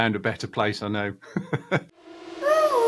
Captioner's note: laughing; music stab